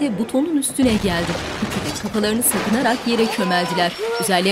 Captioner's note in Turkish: Patlama sesi